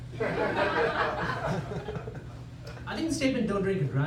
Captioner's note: laughter